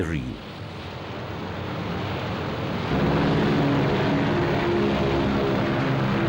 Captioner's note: plane engines roar